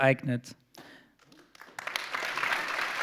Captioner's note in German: Applaus